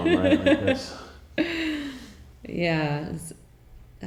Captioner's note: chuckling